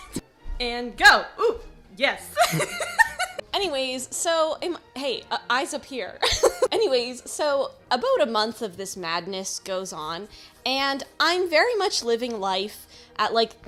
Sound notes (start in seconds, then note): 0.0 laughs; 2.4 laughs; 4.1 stutters; 6.1 laughs